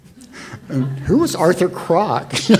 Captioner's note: audience laughs